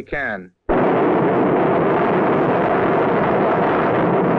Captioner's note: planes whirring